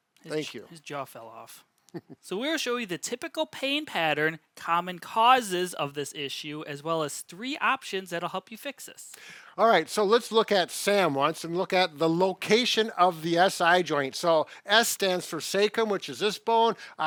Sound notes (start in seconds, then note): 1.9 chuckles